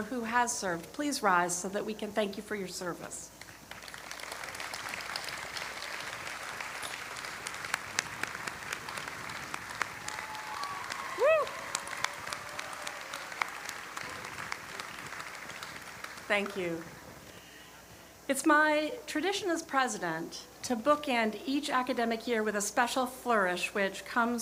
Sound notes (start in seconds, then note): 12.1 applause